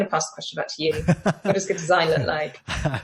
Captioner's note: laughs